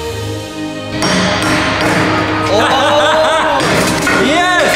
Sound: dramatic orchestral music; hammering; exclaiming

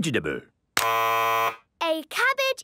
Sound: buzzes

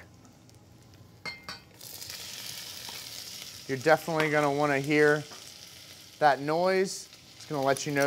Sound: pan sizzling

